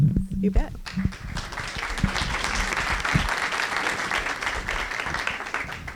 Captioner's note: applause